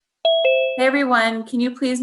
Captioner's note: doorbell rings